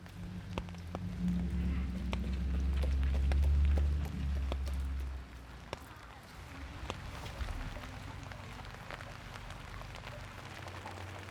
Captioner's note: rain drops